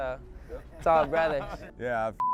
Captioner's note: laughing